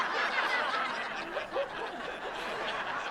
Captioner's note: laughter grows even louder